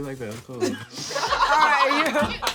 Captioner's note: laughing; laughter